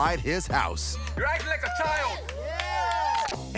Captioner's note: cheering